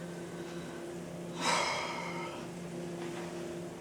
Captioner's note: sigh